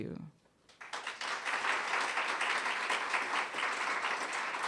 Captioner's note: audience applauding